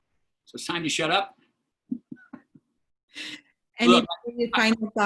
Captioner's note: laughter